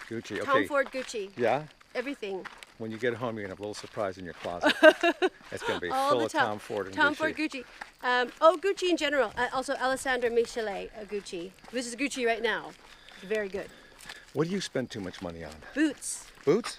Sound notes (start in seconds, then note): 4.6 Margaret laughing